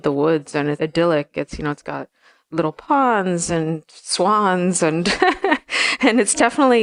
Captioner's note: laughs